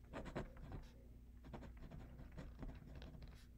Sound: pen rasping

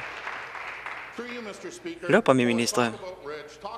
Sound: applause

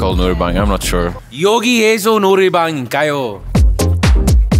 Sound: really bad Korean speaking

